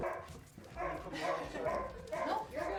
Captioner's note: dogs barking